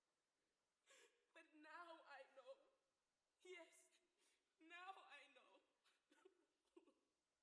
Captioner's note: sobs